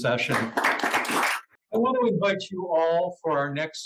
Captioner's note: applause